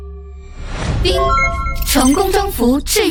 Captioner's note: ding!